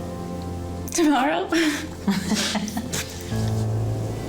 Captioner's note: laughs